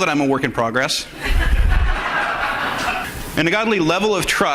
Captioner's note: audience laughs